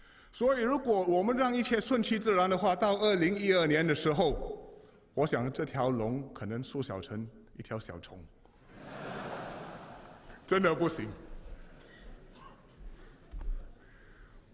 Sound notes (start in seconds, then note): 8.6 笑声